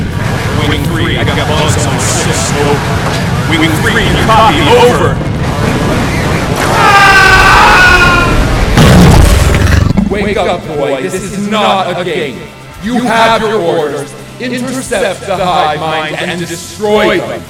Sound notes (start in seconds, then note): 6.6 loud screaming; 9.3 alien growling